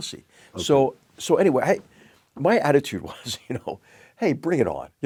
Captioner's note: laugh